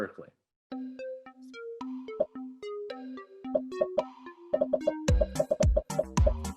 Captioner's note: upbeat music; popping